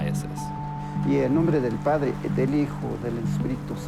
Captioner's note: speaking Spanish